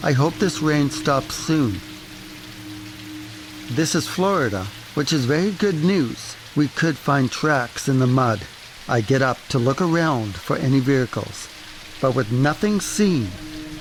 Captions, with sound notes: I hope this rain stops soon. [rain noise] This is Florida, which is very good news. We could find tracks in the mud. I get up to look around for any vehicles, but with nothing seen,